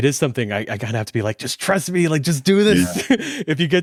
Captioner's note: laughs